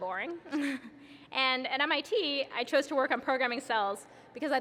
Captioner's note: laughs